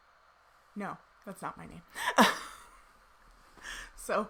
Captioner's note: laughs